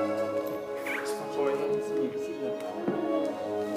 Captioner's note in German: Fernes Stimmengewirr